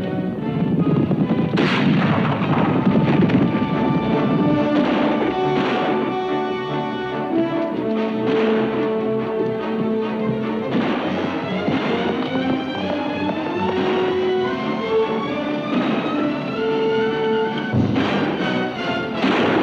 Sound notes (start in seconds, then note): 1.4 gun bangs; 3.7 exciting music; 3.7 guns bangs